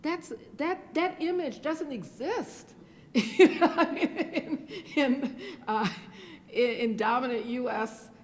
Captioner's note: laughs